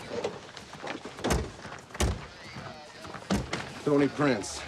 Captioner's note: doors closing